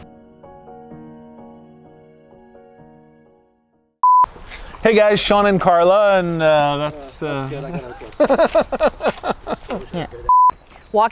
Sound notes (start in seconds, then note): 0.0 soft music; 4.0 beeping sound; 7.4 laughing